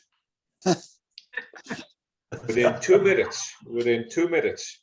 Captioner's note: laughter